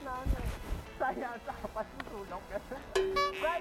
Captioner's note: laughing